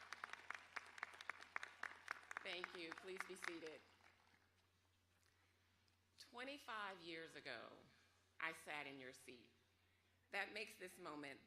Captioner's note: applause